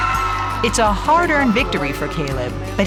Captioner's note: crowd cheering